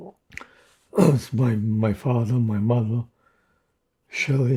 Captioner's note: clears throat